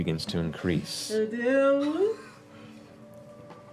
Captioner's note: excitedly